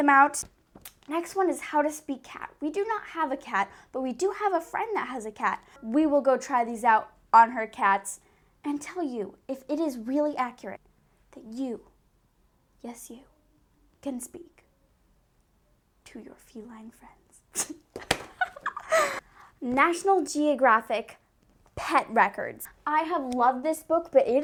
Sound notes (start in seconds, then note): 18.4 breaks out in my weird giggle